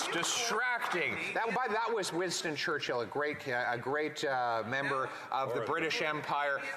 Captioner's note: applause